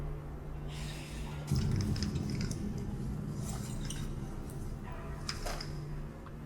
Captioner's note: tuberías de ruidos; ominosa de la música